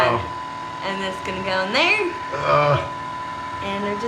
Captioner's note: exclaiming